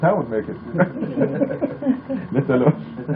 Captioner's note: laughter